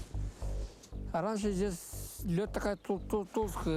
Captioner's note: speaks Russian